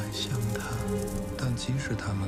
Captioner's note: chariot and horses galloping; horse gallops and whoosh